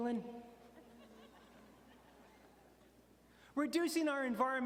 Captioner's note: audience laughing